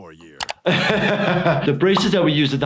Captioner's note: laughs